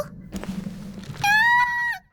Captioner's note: bottle Cap springing up from the floor; Melon soda candy Screaming